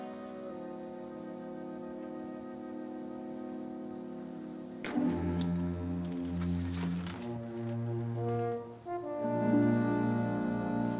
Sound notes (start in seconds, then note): 4.6 spits